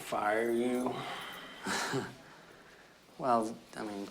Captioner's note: chuckles